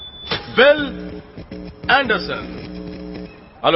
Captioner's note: microphone feedback whines; static buzzing